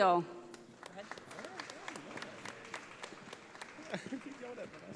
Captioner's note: audience applauding